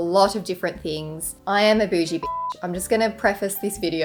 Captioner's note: beep